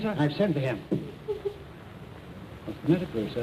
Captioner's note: sobbing